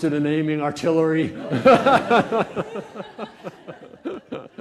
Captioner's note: laughter